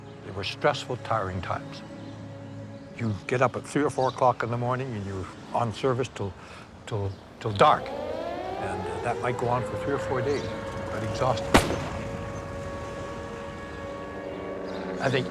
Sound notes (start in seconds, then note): 8.5 siren wails; 11.5 gunshot fire